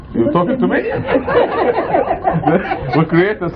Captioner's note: laughter